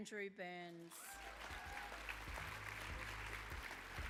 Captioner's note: applause